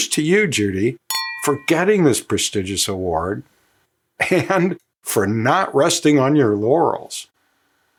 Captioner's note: glasses clink